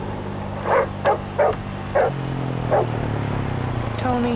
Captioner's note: barks